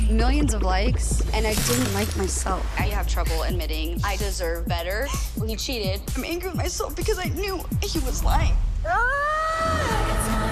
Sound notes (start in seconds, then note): 8.8 screaming